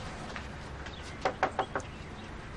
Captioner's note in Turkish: Kapı tıklaması